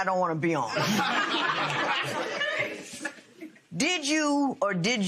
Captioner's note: laughter